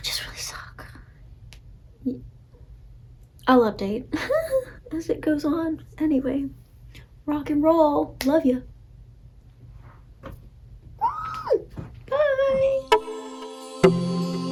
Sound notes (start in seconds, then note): 4.1 laughter